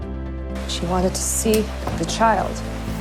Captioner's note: voiceover